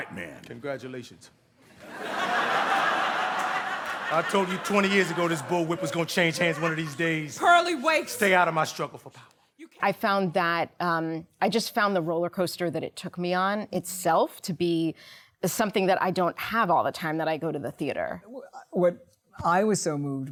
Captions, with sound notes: >> Have a chair, boy. I'm still a white man. >> Congratulations. [ Laughter ] I told you 20 years ago, this bull whip was going to change hands one of these days. >> Purlie, wait. >> Stay out of my struggle for power. >> I found that... I just found the roller coaster that it took me on itself to be something that I don't have all the time